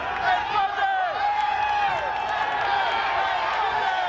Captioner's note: audience cheers